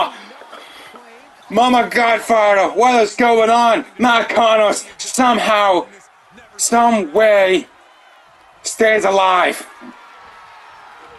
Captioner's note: applause